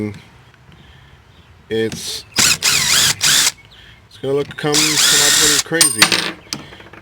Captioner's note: electric drill